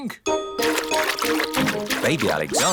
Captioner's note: splashing